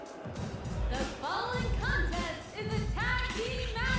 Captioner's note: bell ringing